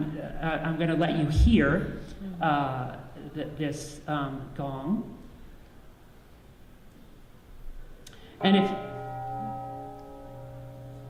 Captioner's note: gong rings